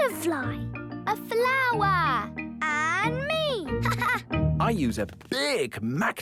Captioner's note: laughing